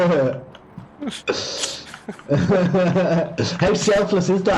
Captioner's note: laughter